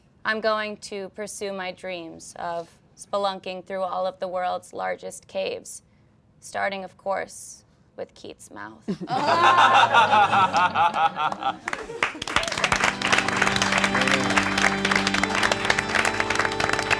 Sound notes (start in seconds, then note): 8.9 all laughing; 12.0 all applauding; 12.6 sad organ music